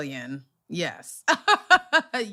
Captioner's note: laughter